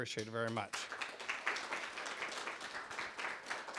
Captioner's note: clapping